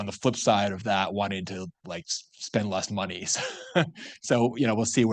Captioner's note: laughs